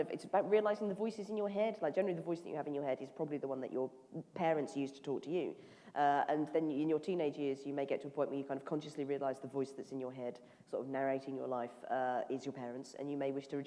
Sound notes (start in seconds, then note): none